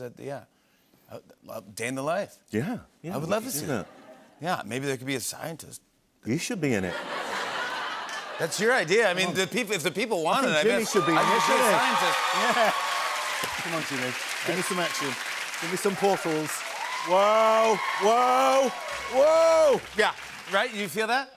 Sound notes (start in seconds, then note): 6.9 laughter; 12.0 cheers and applause